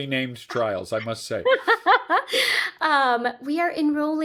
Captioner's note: laughing